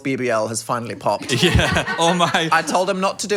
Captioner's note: producer laughs